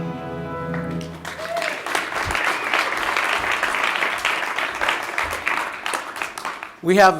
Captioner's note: cheers and applause